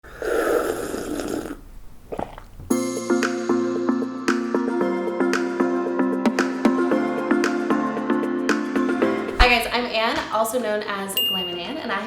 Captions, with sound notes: (slurp) (cheerful music) - Hi guys, I'm Anne, also known as @GLAMNANNE,